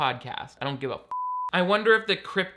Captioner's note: beep